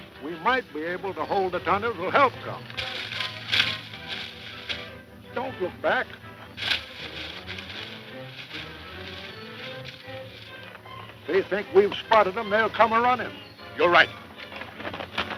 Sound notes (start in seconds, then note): 2.8 leaves rustling; 6.6 leaves rustling